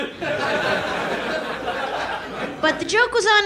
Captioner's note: audience laughs